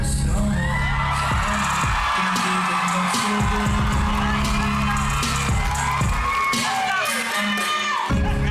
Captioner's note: audience cheering, applauding